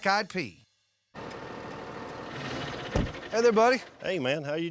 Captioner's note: tractor engine